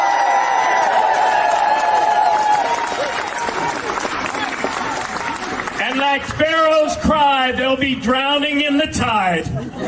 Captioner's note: applause